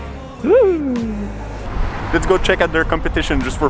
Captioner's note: shudders